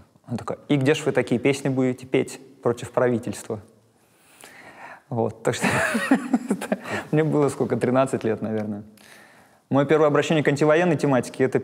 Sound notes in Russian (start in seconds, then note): 5.9 смеется